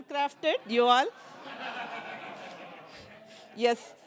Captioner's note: laughter